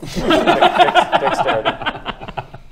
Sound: laughs

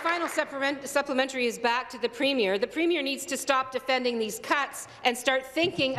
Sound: applause

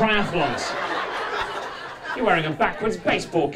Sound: audience laughing

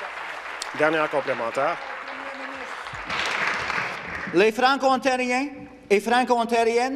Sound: applause

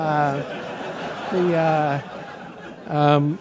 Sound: laugh

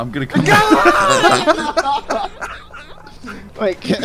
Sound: laughter

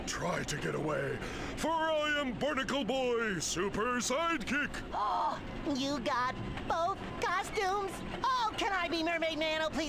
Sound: gasps

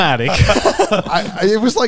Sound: men laughing

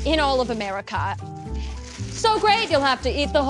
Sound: ravenous chip eating noises

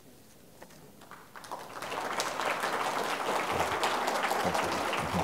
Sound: applause

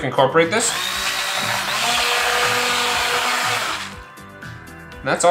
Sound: blender whines

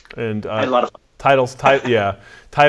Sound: audio skips; laughs

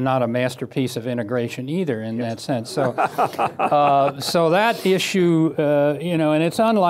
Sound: laughter

